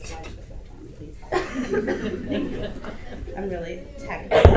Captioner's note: audience laughter